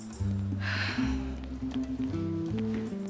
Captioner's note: sighs